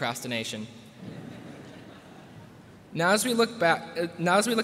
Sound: laughter

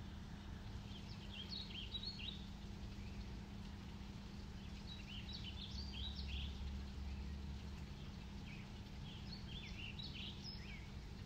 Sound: birds chirping

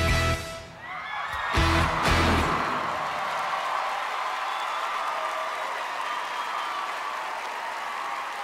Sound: audience cheering

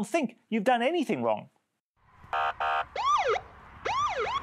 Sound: siren wailing loudly

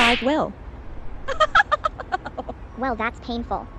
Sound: rita chuckles

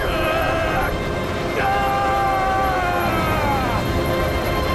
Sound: groaning, screaming; screaming

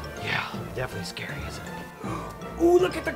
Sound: gasp

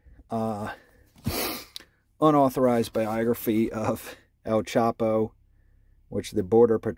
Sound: sniffs

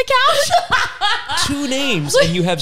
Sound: laughs

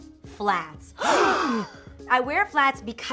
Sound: gasping

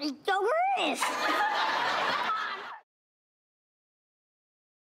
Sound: crowd laughing

